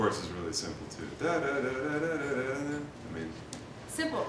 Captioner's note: imitates melody